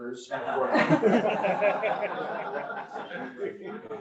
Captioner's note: members laugh